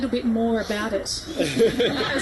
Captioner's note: guests laugh